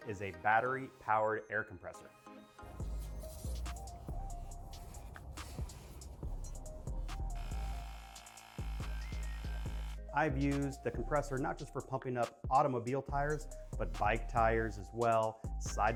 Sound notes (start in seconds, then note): 2.9 gentle music; 7.9 compressor whirring